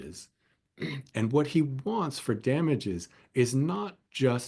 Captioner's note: cough